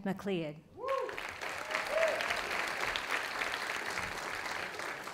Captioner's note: audience applauding